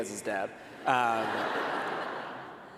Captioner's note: laughter